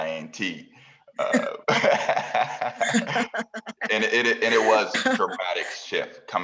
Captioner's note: laugh